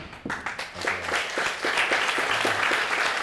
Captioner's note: audience applauding